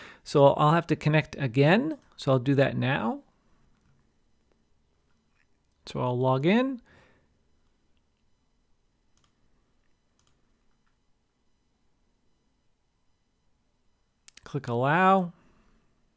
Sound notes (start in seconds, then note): 10.2 mouse clicking